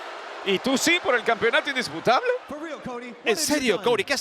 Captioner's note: laugh